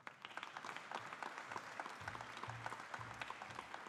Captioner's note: audience applauding